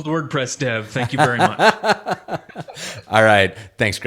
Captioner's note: laughs